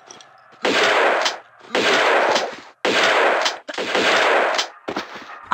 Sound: BOOM x4

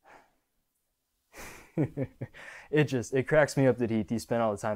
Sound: chuckles

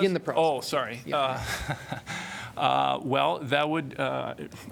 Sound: laughter

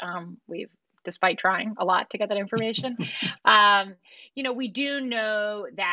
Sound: laughter

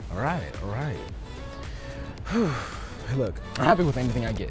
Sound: sighs

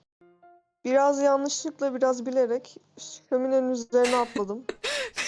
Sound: chuckles

